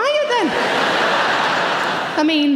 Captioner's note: audience laughing